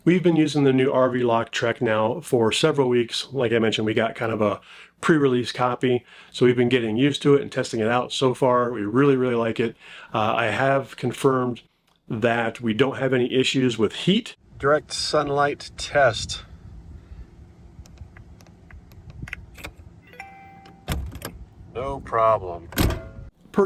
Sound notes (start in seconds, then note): 20.0 lock rings melodically